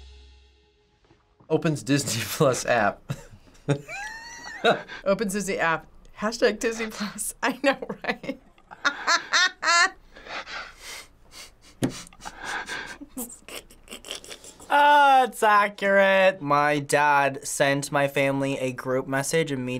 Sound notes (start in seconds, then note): 3.1 laughs; 7.8 laughs; 12.1 snickering